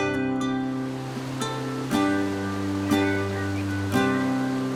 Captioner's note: water rippling; birds chirping